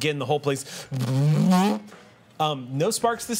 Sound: loud humming

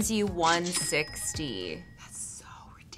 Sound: cash register ringing

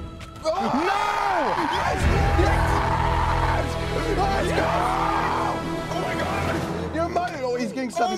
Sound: screaming

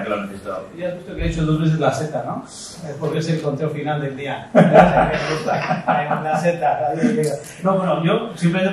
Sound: laughs

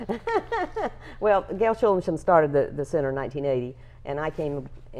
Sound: laughing

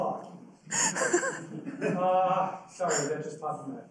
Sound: laughing

